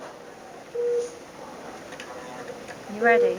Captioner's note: machine beeping